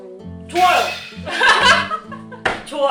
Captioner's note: laughs